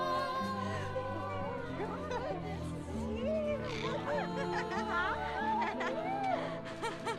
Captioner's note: light laughter; laughing